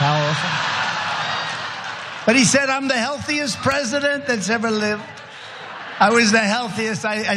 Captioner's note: applause